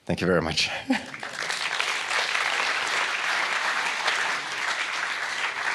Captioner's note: audience applauding